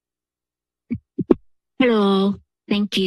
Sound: mic thuds

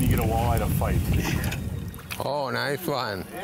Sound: breeze howling

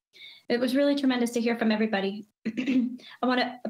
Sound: coughs

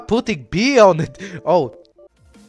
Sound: gasp

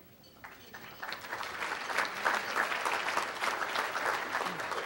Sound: audience applauds

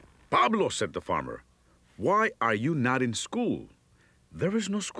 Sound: none

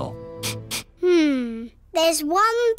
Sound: sniffs

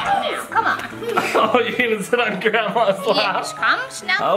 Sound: laughs

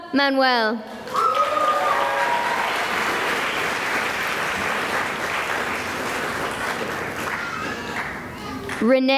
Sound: cheering and applause

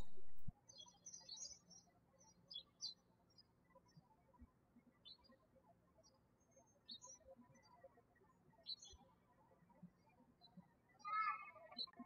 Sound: birds chirping

